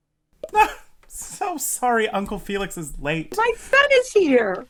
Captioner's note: blows kiss; pop